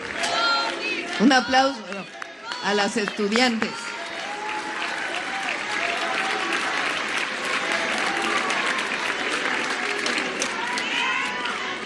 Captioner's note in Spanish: aplausos